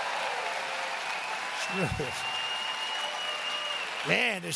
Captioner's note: applause